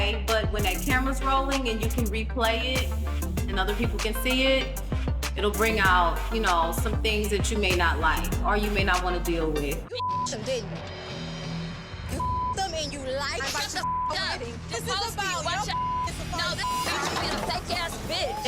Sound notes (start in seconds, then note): 12.1 beep; 13.7 beep; 16.8 table clattering